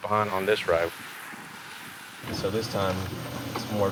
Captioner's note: road spray splashing